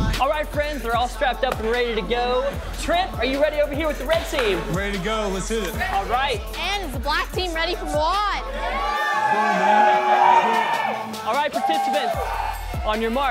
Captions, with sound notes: All right friends, they're all strapped up and ready to go. Trent, are you ready over here, with the Red Team? I'm ready to go. Let's hit it! All right! Is the Black Team ready for Mouad? [crowd cheering] All right participants.. on your mark,